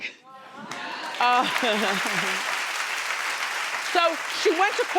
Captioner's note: audience applauding